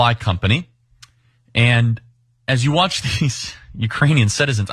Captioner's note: laugh